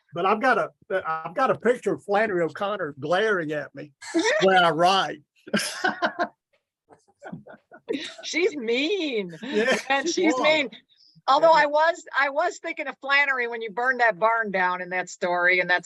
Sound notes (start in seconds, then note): 6.0 laughs